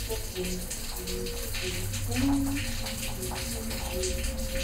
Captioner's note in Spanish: sigue tarareando